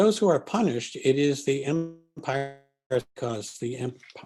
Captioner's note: distortion